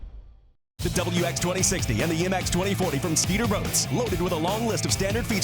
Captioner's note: voiceover